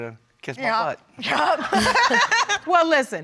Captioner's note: laughing